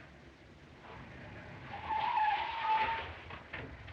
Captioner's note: tires Screeching